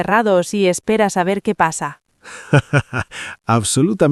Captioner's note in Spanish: Risas